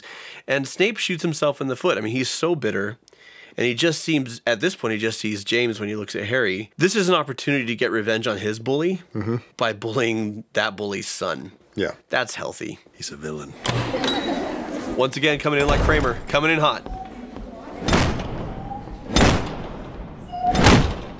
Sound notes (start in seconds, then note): 19.0 slam